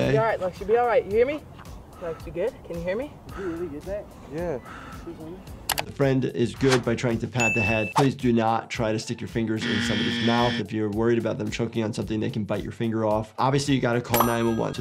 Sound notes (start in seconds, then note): 7.4 bell rings; 9.6 buzzer buzzes; 14.2 phone dings